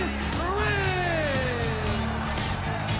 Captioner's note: crowd chatter